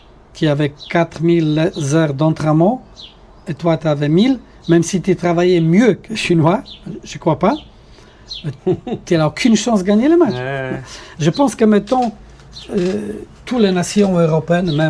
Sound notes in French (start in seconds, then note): 8.4 rires